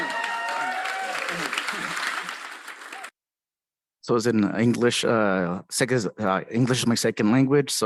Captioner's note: applause